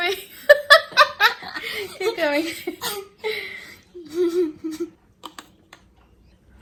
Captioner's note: snorts with laughter; both laugh